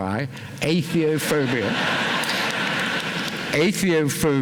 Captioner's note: laughter